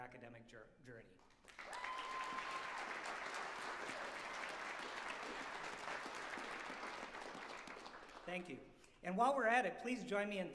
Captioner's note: applause